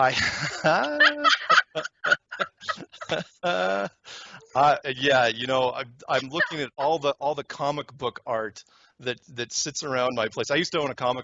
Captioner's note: laughter